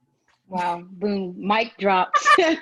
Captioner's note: laugh